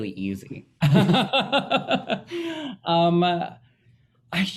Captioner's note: both laughing